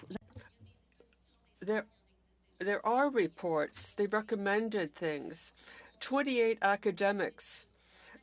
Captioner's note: speaking French